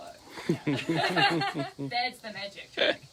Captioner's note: laughing